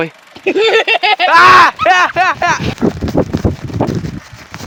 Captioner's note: scream